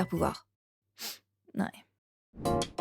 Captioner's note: sniffles